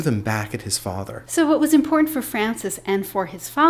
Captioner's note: voiceover